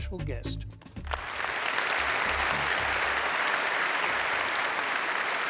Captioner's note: applause